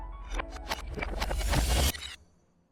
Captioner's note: brief fast-forward sound effect